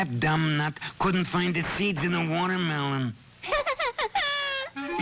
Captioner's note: laughs